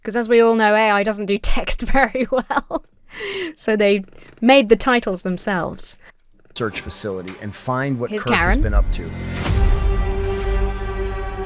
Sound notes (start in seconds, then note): 1.9 laughs; 9.4 orchestra stabs